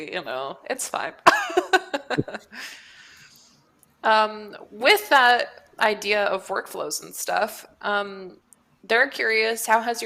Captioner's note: laughs